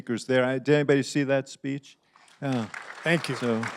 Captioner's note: applause